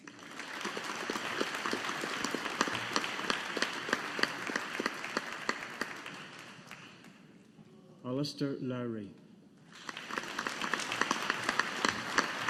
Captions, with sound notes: (AUDIENCE APPLAUDING) Alastair Lawrie. (AUDIENCE APPLAUDING)